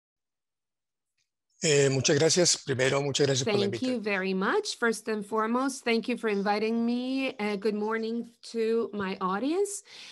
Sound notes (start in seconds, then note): 1.5 speaking in foreign language